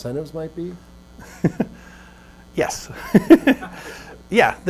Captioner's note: laughs